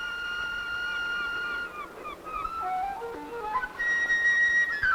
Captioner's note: gentle flute music; seagulls cawing